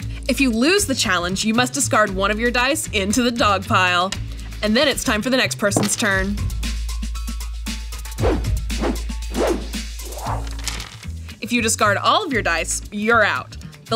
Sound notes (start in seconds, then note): 8.0 upbeat music; 9.2 whooshing